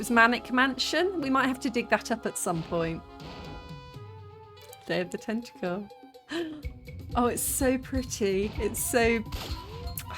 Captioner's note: gasp